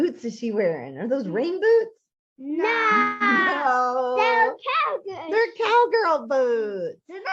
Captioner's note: both kids exclaim loudly